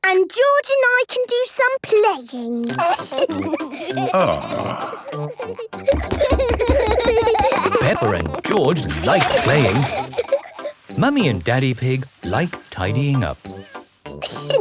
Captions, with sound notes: and George and I can do some playing. - Ahh... - (both giggling) - Peppa and George like playing. Mummy and Daddy Pig like tidying up.